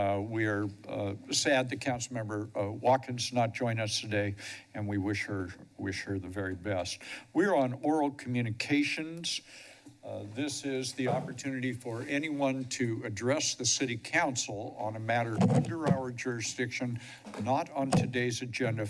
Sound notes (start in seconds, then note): 9.3 pause; 13.8 distorted microphone sound